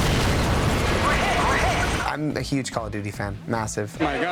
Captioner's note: explosion